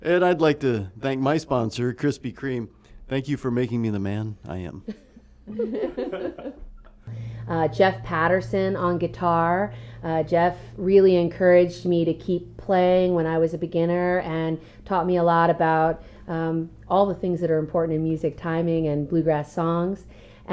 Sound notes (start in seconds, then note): 5.4 laughter